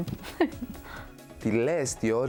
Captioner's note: laughing